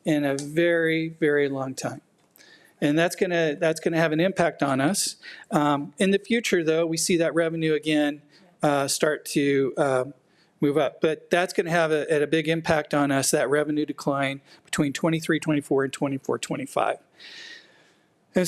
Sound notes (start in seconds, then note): none